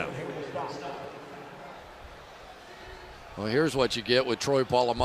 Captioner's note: pa announcement